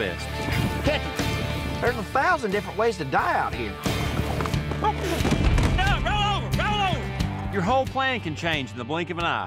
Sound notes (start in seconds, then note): 3.8 horse tumbles